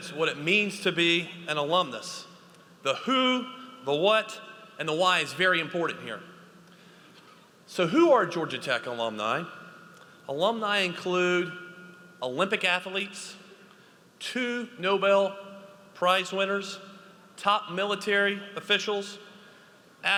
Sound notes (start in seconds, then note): none